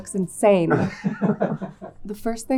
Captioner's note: people laughing